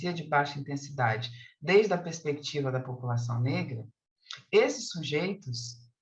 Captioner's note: continues speaking in Portuguese